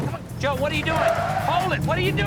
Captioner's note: tires screech